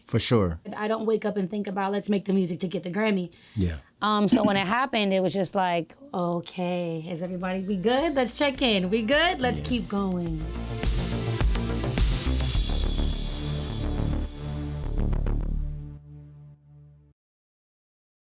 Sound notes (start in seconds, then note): 4.3 clears throat; 10.7 upbeat music